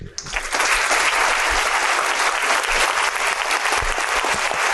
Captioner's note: audience applauding